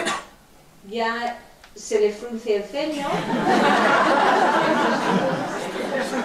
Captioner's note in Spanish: Risas